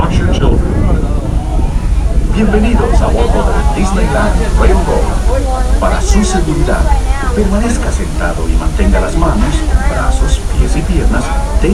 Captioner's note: Spanish